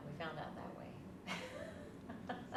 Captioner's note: laughs